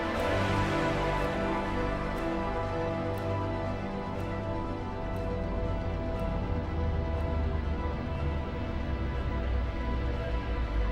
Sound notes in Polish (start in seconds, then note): 2.4 wyraźna radość